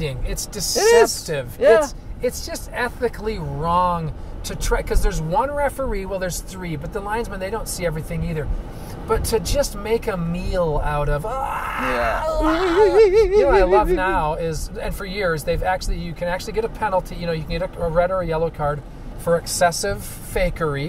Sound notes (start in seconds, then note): 13.9 sc reaming